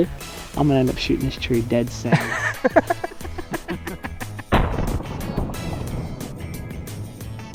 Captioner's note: laughter